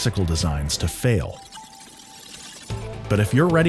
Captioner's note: glitch Noise